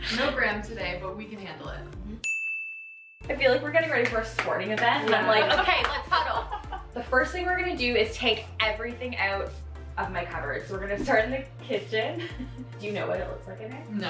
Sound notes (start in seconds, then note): 2.2 ding